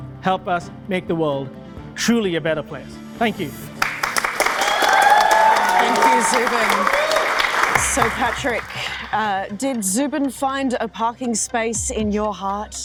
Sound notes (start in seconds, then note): 3.7 audience applauding